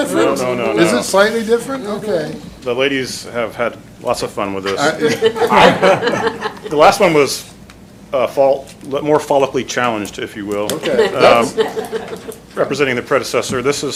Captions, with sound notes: No, no, no, no. Is it slightly different? The ladies have had lots of fun with this. (laughter) The last one was more follically challenged, if you will. Representing the predecessor, this